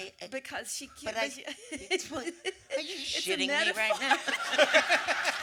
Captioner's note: laughter; audience laughter and applause